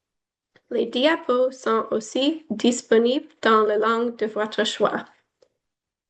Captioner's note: foreign language